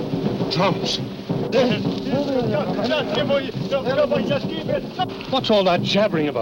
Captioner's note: speaking in foreign language